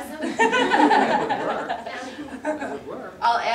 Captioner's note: audience laughter